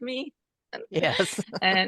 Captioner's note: laughter